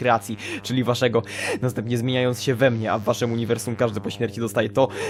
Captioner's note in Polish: wdech; wdech